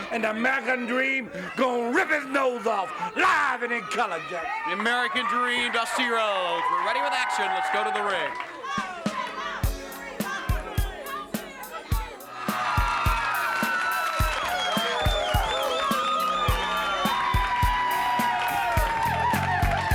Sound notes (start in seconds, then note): 9.1 crowd cheering; 9.1 lively music